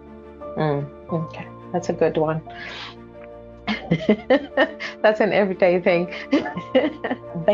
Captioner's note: chwerthin